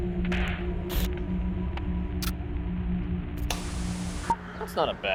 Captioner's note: sinister music; transitions clicking